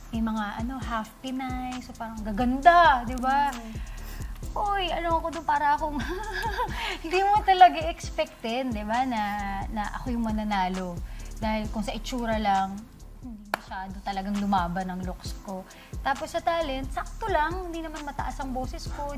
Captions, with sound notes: I was with half-Filipinos, very beautiful people. So, I was like... [CHUCKLES AWKWARDLY] Nobody would expect that I'd win. When we talk about looks, I really didn't have a fighting chance. With my talent, well, I don't belt high notes.